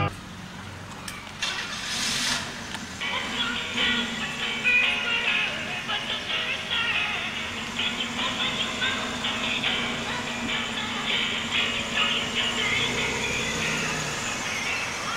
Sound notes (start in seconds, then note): 1.4 car starts up